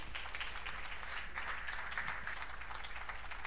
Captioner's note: cheers and applause